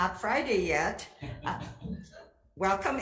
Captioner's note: audience giggles